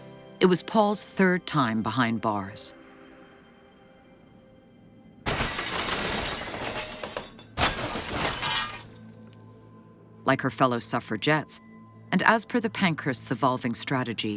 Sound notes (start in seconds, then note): 5.2 glass shattering